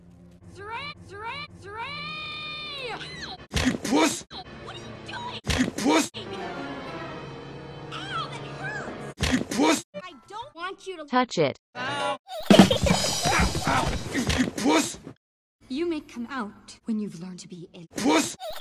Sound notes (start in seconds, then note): 12.4 laughter; 18.0 laughter